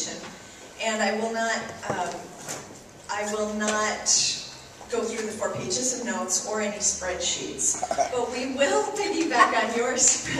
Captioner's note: laughs